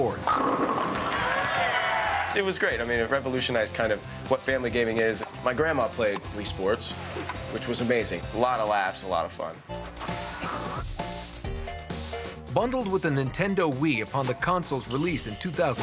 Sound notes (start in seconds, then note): 0.7 cheering; 9.6 arcade music plays